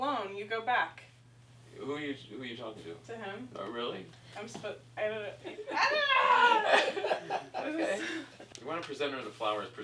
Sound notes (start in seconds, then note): 5.7 yells; 6.6 laughs